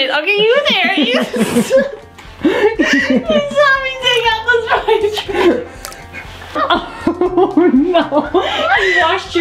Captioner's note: laughter